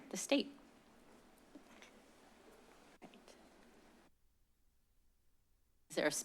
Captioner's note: silence